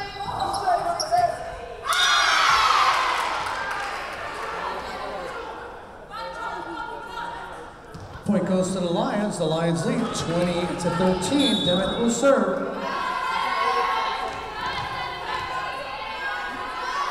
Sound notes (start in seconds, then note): 1.8 Lions cheering; 2.0 whistle blowing; 14.7 whistle blowing